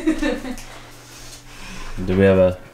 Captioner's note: laughing